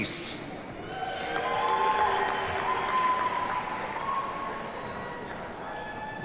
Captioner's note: audience cheers and applauds